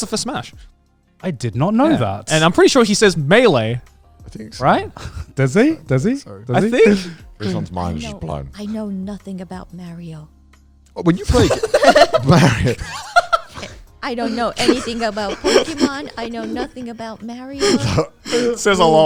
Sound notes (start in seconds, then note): 11.2 everyone laughing